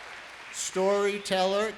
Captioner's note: applause